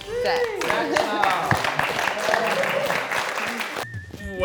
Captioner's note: applause